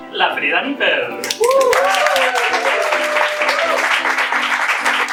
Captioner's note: applause